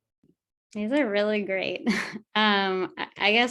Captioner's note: chuckles